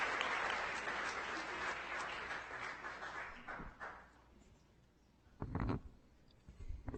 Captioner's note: audience applauding